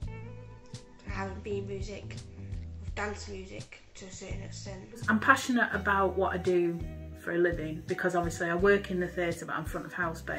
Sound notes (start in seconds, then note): none